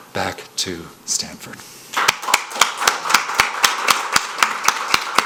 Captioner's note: applause